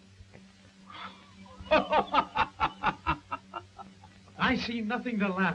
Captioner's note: Marlowe laughs